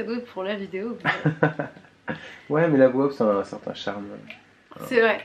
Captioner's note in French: rires